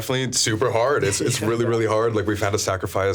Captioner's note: laughing